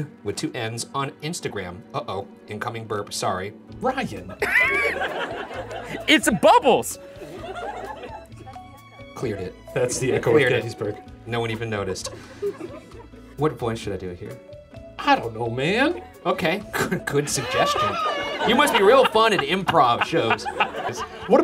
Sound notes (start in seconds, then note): 7.2 laughing